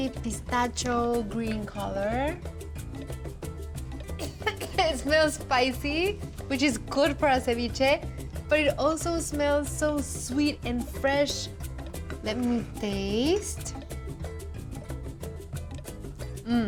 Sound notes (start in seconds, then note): 4.2 coughing